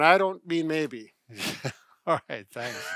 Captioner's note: laughs